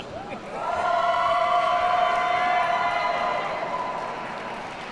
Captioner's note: audience cheers and applauds